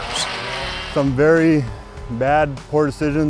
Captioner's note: power tool buzzing